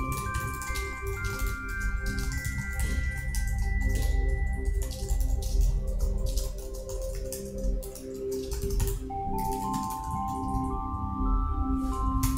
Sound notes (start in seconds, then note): 0.0 keys clacking; 9.4 keys clacking continues